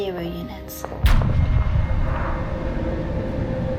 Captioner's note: gun firing